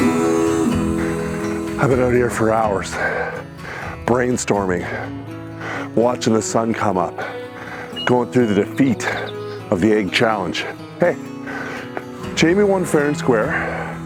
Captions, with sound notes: - (breathes heavily) I've been out here for hours brainstorming, watching the sun come up, going through the defeat of the egg challenge. Hey, Jamie won fair and square,